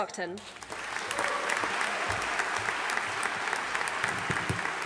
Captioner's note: audience applauding